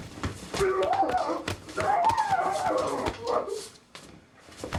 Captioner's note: screaming